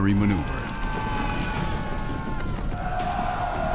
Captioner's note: cheering; screams